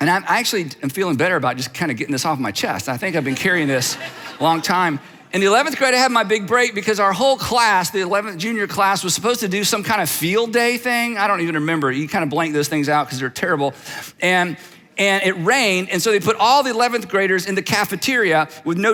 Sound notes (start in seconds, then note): 3.1 audience laughs